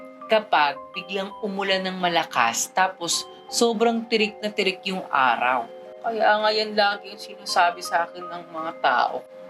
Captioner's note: none